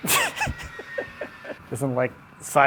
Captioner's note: laughing